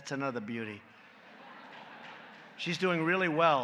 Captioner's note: laughter